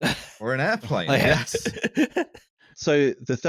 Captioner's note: laughter